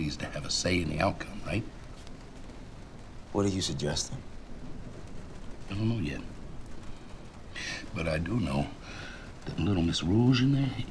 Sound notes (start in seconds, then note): none